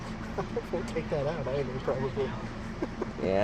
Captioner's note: laughs